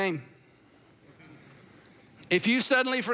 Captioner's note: congregation laughing